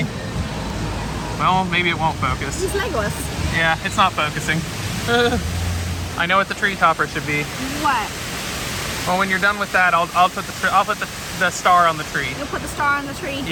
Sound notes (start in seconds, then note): 5.0 laughs